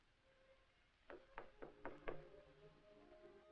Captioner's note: knock at door